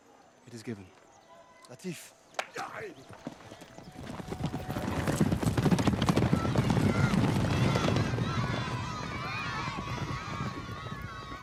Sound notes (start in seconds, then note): 2.7 speaks in arabic; 6.0 children shouting